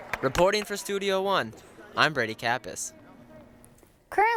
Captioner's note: voiceover